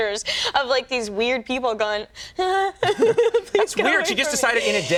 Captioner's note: awkwardly laughs